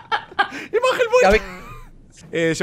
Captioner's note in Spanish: risas